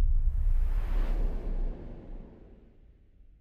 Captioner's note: swoosh